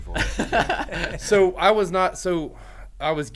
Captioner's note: men laughing